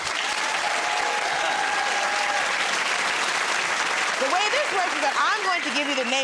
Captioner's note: cheers and applause